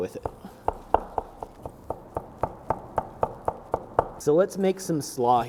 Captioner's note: chopping sounds